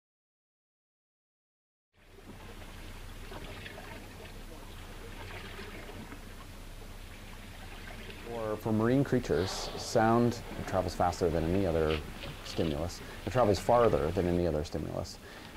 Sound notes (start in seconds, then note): 2.5 water gently splashing